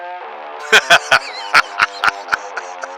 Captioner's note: laughing